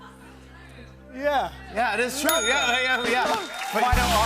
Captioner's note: ding